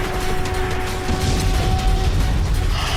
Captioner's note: blows